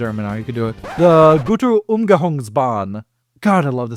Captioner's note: record scratch